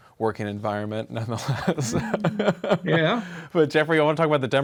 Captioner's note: laughs